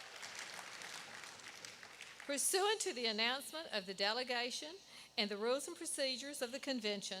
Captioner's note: applause